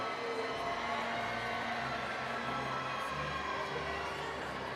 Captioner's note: overlapping chatter